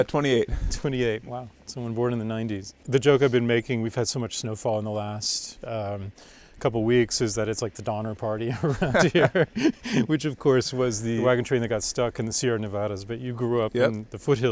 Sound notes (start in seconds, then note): 8.5 laughing